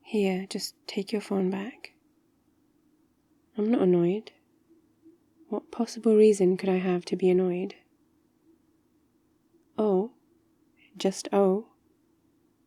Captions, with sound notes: here just take your phone back I'm not annoyed *sarcastic* what possible reason could I have to be annoyed? oh? just oh?